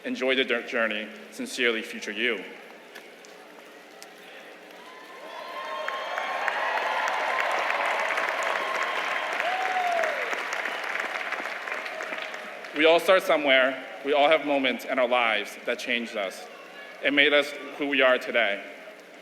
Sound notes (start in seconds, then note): 4.8 applause